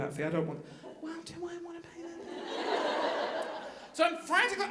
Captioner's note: audience laughing